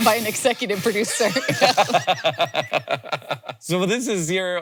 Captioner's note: both laughing